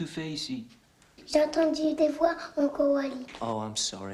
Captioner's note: speaking french